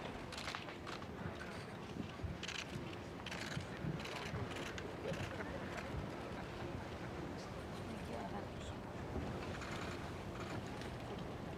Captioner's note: applause